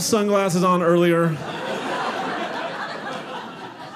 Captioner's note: audience laughing